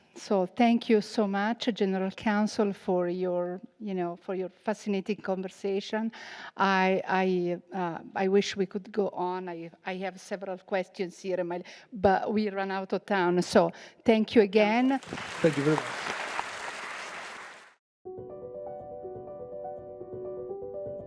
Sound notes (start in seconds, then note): 14.8 audience applauding; 18.2 bright music